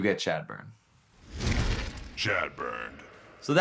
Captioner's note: heavy thud